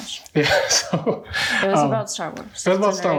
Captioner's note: laughing